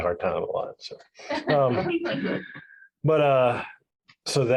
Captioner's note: crowd laughs